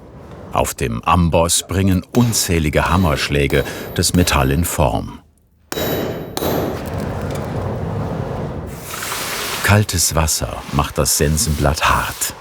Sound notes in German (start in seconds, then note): 5.6 Metallische Laute; 8.2 Zischen